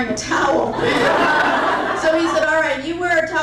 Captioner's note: crowd laughing intensifies